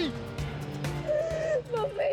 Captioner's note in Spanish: Sollozos